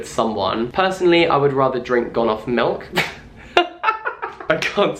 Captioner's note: laughs